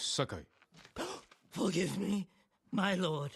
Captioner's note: gasp